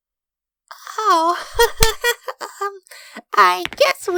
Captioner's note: embarrassed chuckling